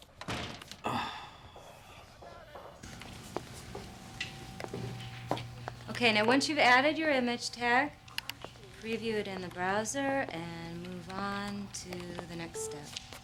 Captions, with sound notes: (door closing) (sighing) - Okay now, once you've added your image tag, preview it in the browser and move on to the next step.